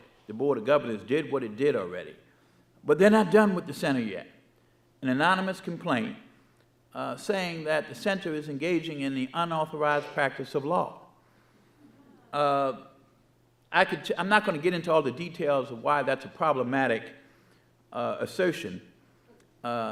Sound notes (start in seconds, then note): 12.5 audience murmuring